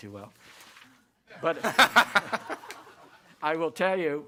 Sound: all laugh

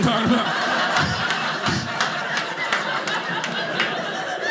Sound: audience laughing

